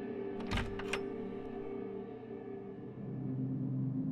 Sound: door clicking

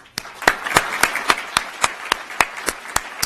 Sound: applause

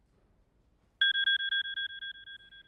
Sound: phone rings

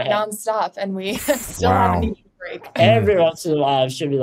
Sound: chuckles

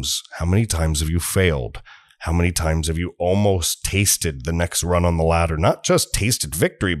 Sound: deep breath

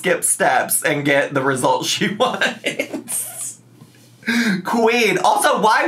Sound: laughs

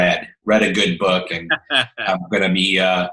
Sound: laughing

